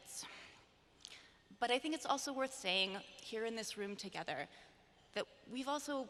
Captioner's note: none